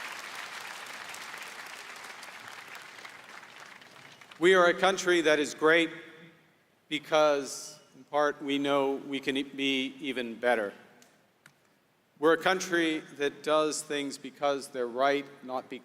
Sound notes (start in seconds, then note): 0.0 applause